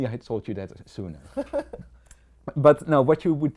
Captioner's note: laugh